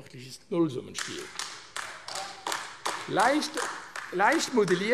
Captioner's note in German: Beifall AfD